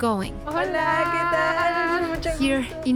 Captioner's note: both speak Spanish